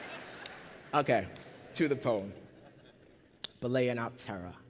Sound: laughter

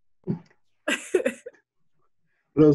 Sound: laughs

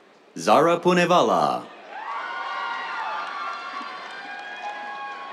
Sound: cheers, applause

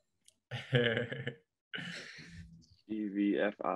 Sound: laughing lightly

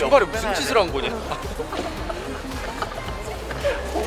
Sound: hahaha

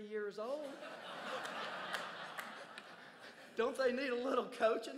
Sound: crowd laughs

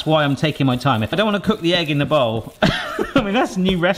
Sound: laughs

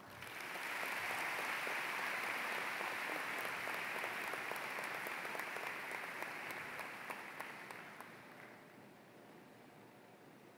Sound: applause

